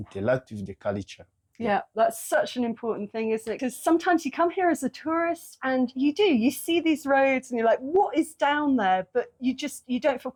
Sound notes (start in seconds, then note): none